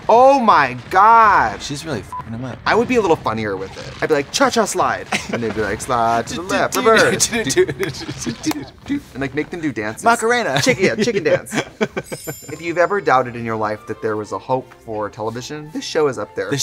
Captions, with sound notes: Oh my gosh, she's really (beep) them up. I would be a little funnier with it. I'd be like, cha-cha slide. (laughing) And they'd be like slide to the left, reverse. And like, make them do dances. - Macarena. - Chicken, chicken dance. (laughing) (twinkling) - If you've ever doubted in your life that there was a hope for television, this show is up there.